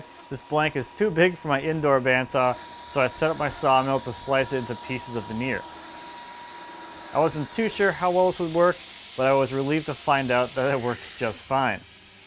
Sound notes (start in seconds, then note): 6.3 saw screeches